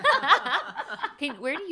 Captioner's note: laughing